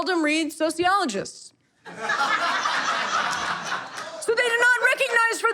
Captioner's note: audience laughter